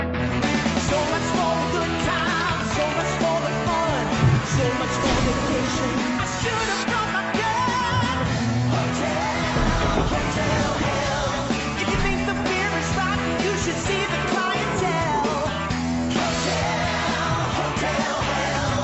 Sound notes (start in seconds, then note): 7.2 electricity crackles; 14.8 tiger roaring